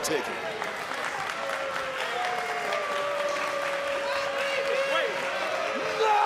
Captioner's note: crowd cheering